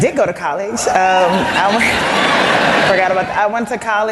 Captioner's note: laughter